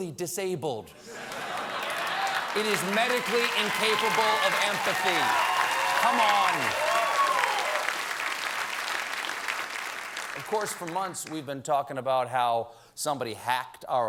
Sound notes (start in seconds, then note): 1.1 applause